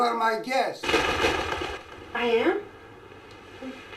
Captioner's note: wings flapping